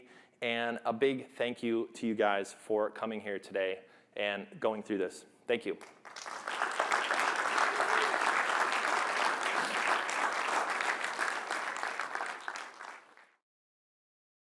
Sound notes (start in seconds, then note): 5.8 applause